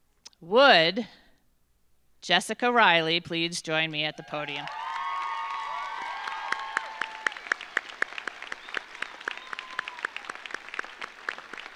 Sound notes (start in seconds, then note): 4.1 audience cheers; 4.3 audience applauds